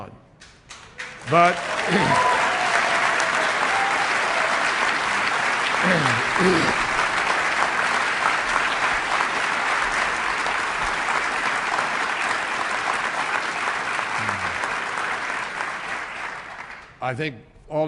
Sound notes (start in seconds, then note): 3.3 applause and cheers